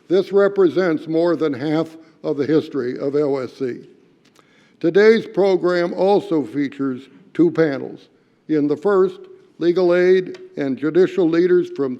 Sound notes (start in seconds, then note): none